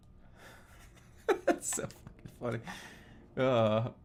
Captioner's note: laughing